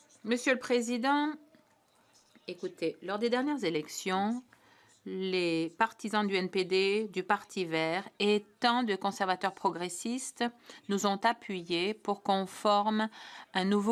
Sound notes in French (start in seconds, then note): 2.8 voix de l'interprète